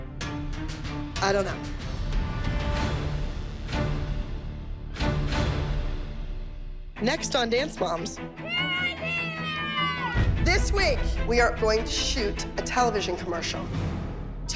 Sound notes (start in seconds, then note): 8.4 girls cheering